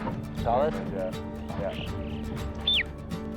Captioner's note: bird whistles